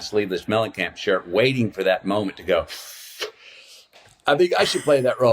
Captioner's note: inhales